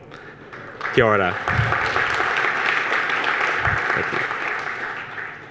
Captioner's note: audience applauds